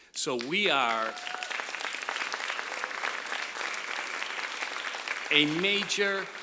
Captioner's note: applause